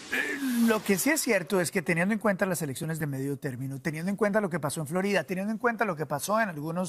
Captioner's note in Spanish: HABLA EN INGLéS